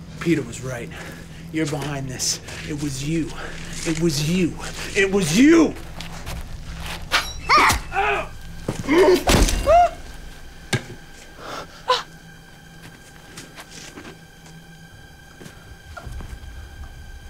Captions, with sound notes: Peter was right, you're behind this. It was you. It was you. It was you. (Anne groaning) (Chad grunting) (Rosemary gasping) (suspenseful music)